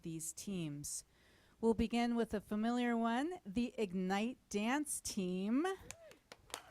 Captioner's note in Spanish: aplausos